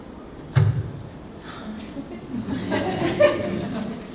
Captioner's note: audience laughing